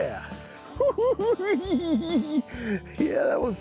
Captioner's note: cackling